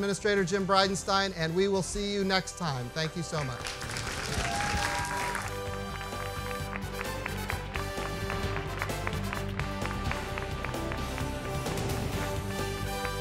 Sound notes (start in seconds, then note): 6.4 applause